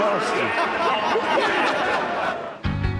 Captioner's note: laughter